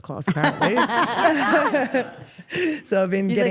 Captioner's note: Steph and Rhea laugh